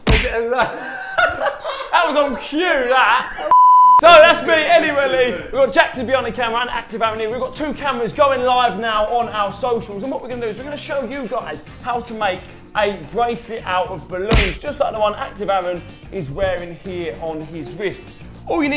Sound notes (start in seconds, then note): 0.0 balloon popping; 0.2 laughing loudly; 3.5 sharp beep